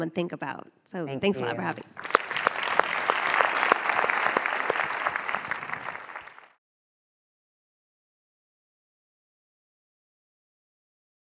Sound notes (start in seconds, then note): 1.4 applause